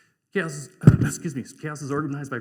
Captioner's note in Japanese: ぶつかる音